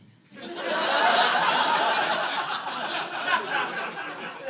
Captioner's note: audience laughing